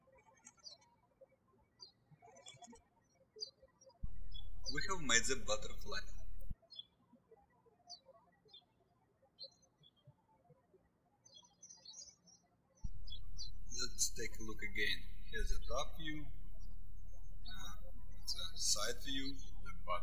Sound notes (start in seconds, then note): 6.9 birds chirping